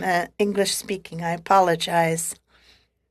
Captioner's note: speaking French